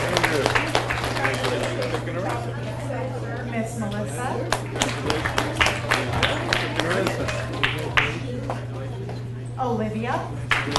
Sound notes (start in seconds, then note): 0.0 audience applauds; 2.5 people chattering; 4.4 audience applauds